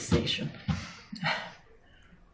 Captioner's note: panting